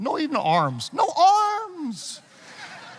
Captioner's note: audience laughing